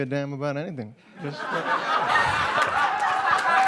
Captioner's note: lots of laughter and applause